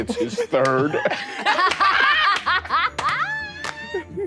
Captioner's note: all laughing